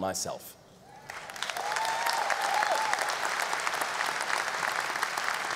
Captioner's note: audience applause